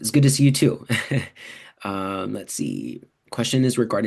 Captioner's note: chuckles